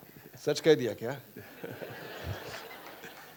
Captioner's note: laughter